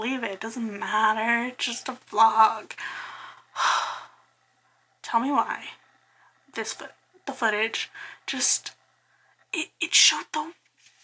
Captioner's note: sigh